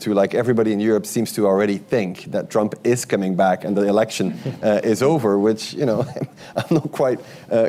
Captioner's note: laughter